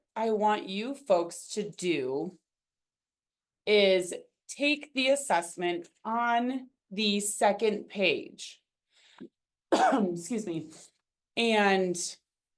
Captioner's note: coughs